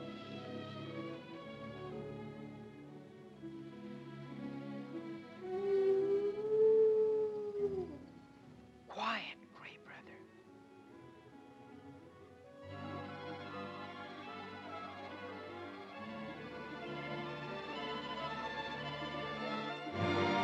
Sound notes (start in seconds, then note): 0.1 ominous music; 5.5 wolf howls; 12.7 ominous music; 20.2 dramatic ominous music